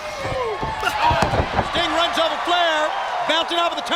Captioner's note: Ric thudding on ring